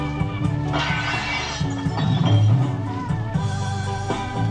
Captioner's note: glass shatters